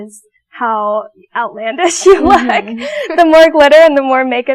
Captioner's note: laughing